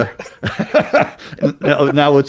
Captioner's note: laughing